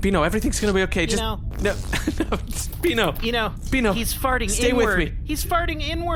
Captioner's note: Beano makes a fart noise, Pleck laughs